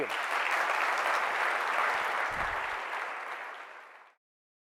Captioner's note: audience applauding